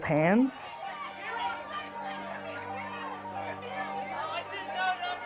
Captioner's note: press calling out at once